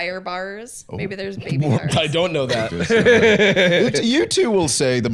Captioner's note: laughs